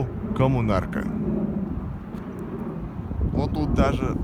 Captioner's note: the sound of a flying plane